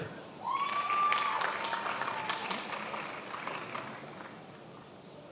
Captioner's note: attendees applauding